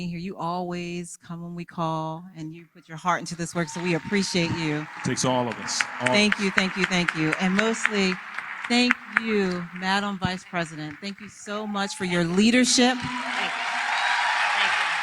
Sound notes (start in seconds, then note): 4.3 applause; 12.1 applause